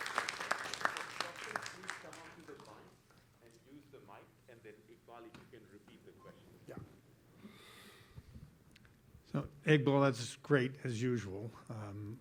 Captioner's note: applause